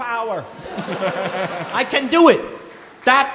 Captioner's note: & crowd laughing